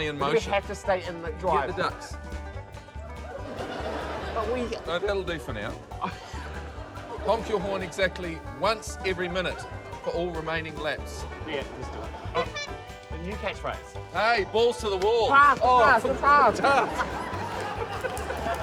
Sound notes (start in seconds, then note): 3.2 laughter; 5.8 chuckles; 12.3 toots horn